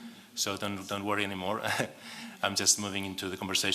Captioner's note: laugh